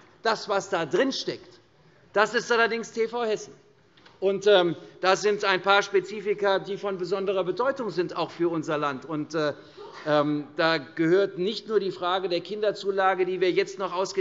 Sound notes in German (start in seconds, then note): none